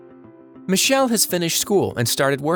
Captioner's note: lively, bouncy music; voiceover